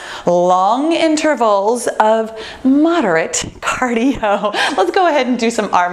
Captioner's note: laughs